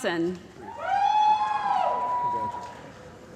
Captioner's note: cheering